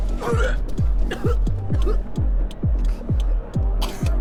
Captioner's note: Rachel vomiting